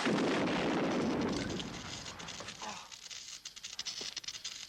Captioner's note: truck booming